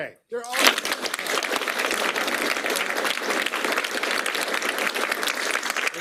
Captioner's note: applause